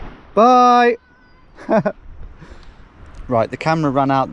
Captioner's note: chuckles